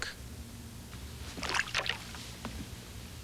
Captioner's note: water splashes